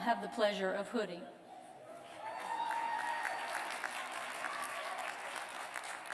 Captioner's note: cheers and applause